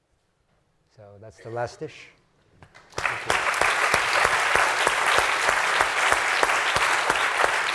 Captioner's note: applause